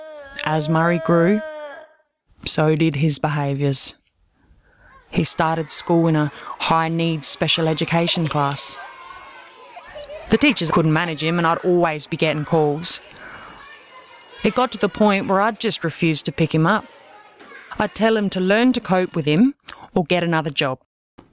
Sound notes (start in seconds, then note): 12.9 phone ringing